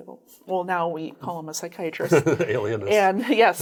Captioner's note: laughs